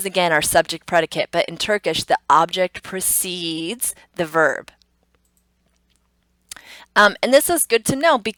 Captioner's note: computer mouse clicks; tongue clicks